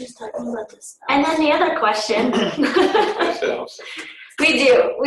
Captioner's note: laughs